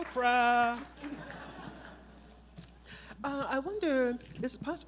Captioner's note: audience laughs